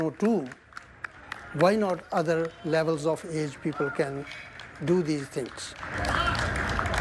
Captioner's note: applause